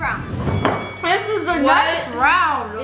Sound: bell dings

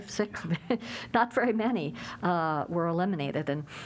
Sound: laughter

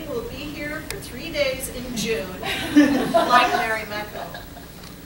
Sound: laughter

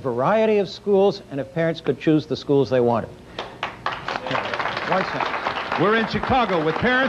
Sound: applause

